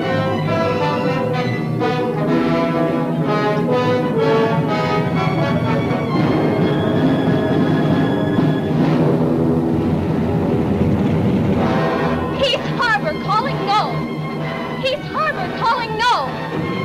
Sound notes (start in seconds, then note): 0.1 suspenseful music continues; 6.5 plane engine roaring